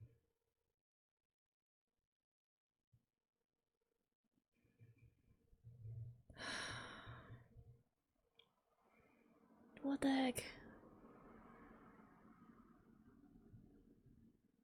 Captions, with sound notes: [breathes out] What the heck?